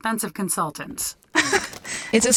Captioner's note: laughter